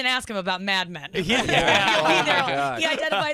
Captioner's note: laughter